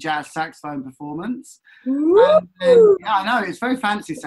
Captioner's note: woops